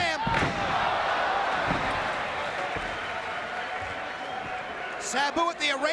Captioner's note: applause